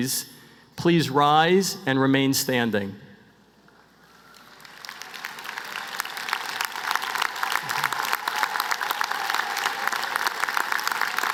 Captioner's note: applause